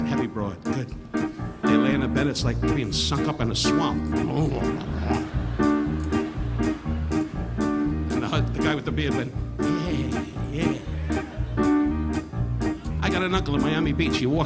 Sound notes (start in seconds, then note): 4.2 Don grunting; 4.2 audience laughing; 6.3 upbeat piano music continues; 9.9 audience laughing